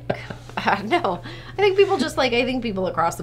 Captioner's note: laughing; laughs